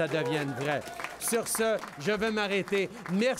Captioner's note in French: Applaudissements